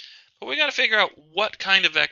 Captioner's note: voiceover